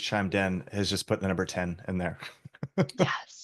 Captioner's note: laughs